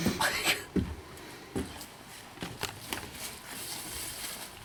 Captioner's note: footsteps clonking; leaves crunching